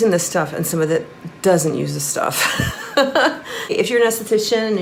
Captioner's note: laughing